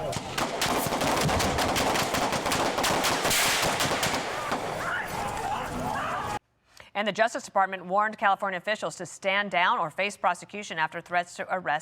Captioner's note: shouting and gunfire